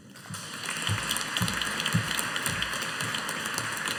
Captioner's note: audience applauding